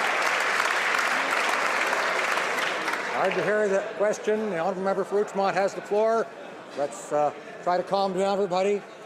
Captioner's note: some Applause